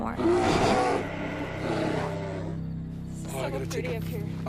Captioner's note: bear growling